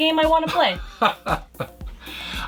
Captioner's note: laughs